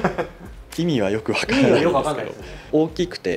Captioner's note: laughs